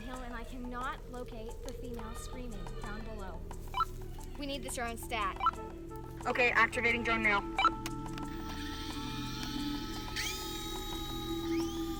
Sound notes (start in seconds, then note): 8.5 radio beeps; 9.4 drone whirs